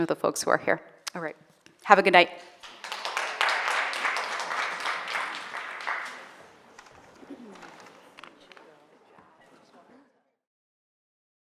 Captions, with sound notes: with the folks who are here. All right. Have a good night. (audience applauding) (people faintly chatting)